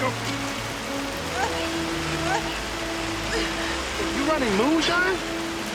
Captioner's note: Lilly gasping deeply